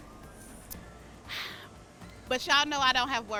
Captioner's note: sighs